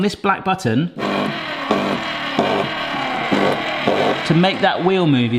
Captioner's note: can opener revving